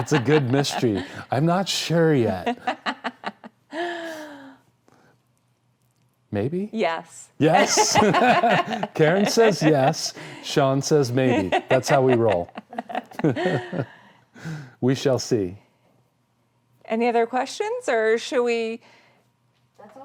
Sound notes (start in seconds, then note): 0.0 laughing; 7.5 both laughing